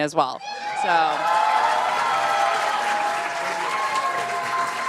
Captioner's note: applause